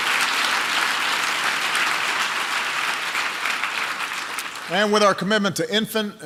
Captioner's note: applause